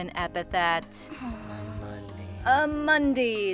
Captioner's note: unenthusiastically